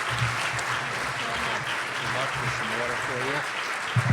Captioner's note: applause